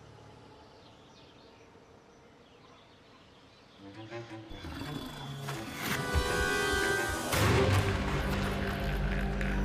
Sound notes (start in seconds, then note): 1.8 birds chirp; 5.3 bold suspenseful music; 9.4 evil laughter